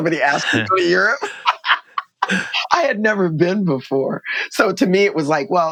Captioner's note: laughter